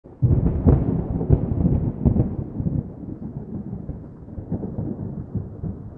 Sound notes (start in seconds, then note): 0.0 thunder